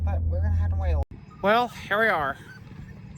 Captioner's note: Ella whimpers